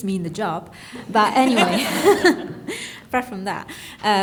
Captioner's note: audience laughing